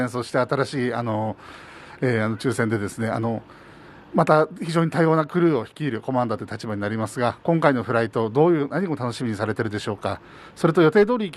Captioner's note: speaking japanese